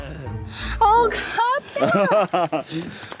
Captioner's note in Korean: 꺄륵